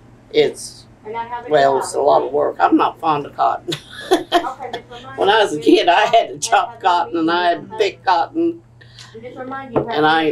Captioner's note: laughs